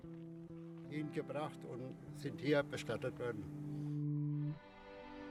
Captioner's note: speaking German